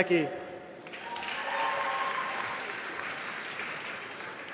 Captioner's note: applause